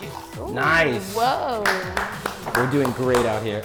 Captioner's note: applauds